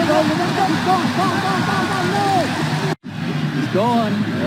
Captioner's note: crowd cheering drowns out speakers; crowd cheering